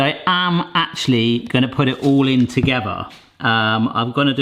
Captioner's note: none